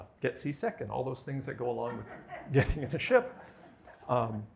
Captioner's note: laughter